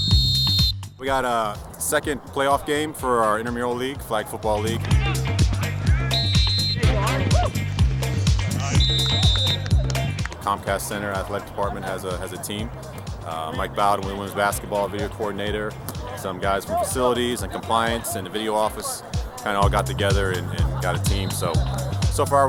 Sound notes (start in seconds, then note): 0.0 whistle; 6.7 whistles